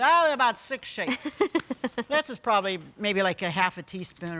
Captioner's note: laughs